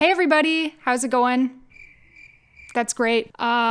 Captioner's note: crickets